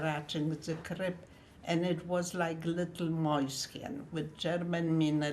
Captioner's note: german